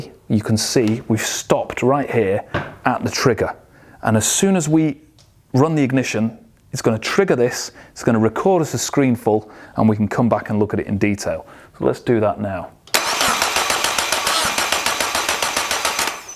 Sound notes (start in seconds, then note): 12.9 engine start